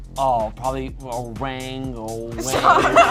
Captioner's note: speaking gibberish